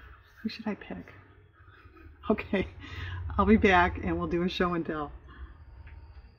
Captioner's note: laughs